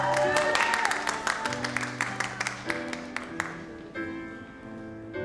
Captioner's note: audience cheers and applauds